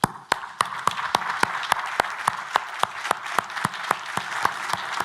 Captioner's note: everybody applauding